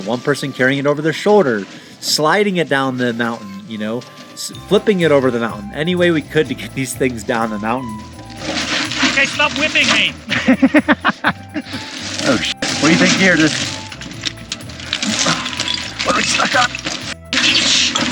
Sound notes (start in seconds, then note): 10.2 laughing; 12.7 beep; 15.0 men grunting